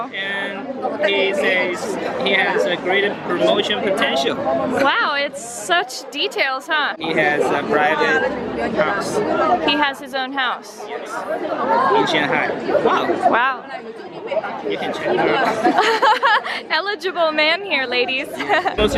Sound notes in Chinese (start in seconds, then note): 15.4 笑声; 18.0 笑声